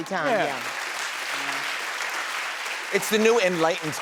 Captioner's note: crowd cheers